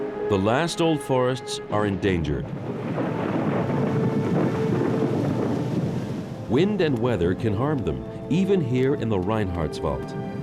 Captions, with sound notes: The last old forests are endangered. [thunder rolling] Wind and weather can harm them, even here in the Reinhardswald.